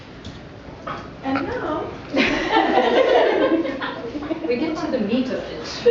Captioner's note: laughter